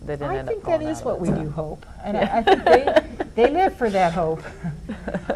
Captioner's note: laughs